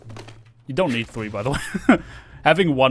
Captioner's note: laugh